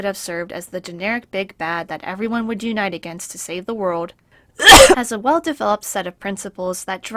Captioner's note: cough